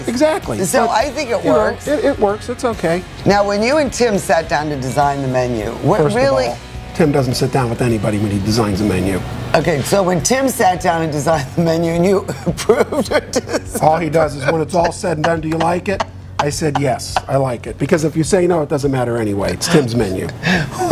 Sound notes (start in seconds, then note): 12.2 laughs